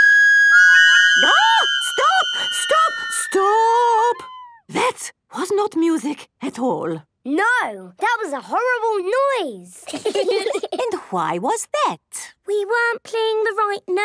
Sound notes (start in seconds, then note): 9.8 laughter